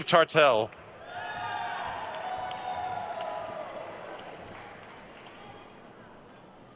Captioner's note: attendees cheering and applauding